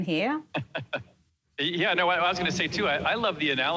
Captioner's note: laughs